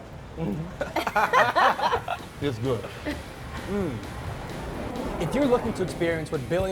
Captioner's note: laughter